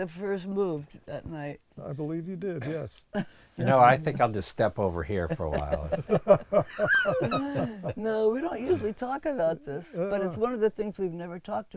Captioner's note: laughs